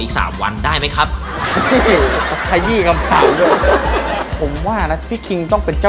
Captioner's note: laughing